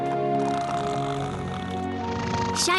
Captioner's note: snoring